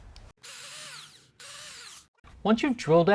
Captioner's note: drill whirring